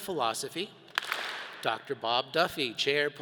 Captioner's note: all clap